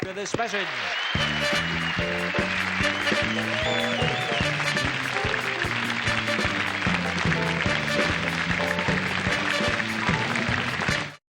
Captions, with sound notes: up to $10,000 right after this message. (audience claps and cheers) (energetic music)